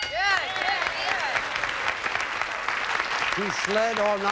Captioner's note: audience applauding